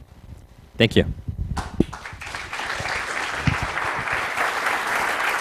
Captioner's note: applause